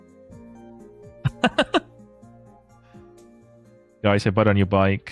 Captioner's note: laughter